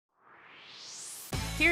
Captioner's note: swoosh